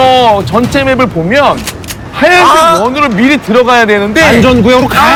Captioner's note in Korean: 악!